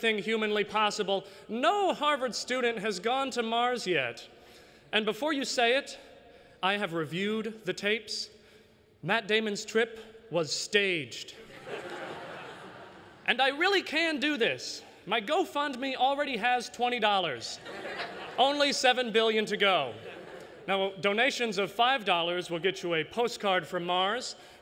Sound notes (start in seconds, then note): 11.4 laughter